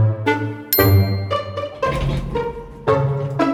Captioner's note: bell chimes